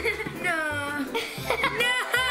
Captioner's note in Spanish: ríe